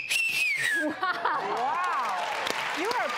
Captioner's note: wolf whistles; audience applause